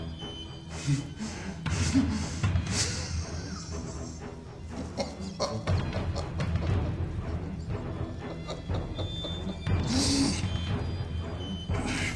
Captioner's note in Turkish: Nefes ve Gülme Sesleri